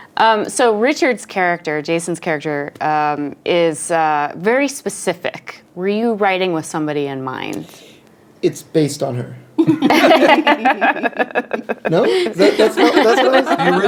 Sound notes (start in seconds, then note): 9.6 laughing